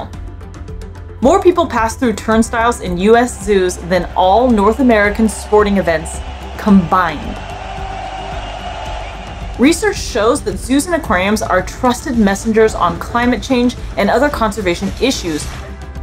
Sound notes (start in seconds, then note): 0.2 background music; 7.5 background music; 7.5 sound of people cheering; 15.7 background music